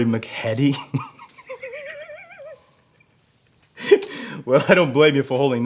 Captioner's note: officer chuckles